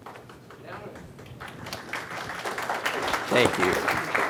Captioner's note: audience clapping